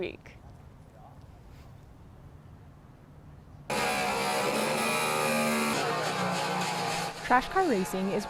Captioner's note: welder sound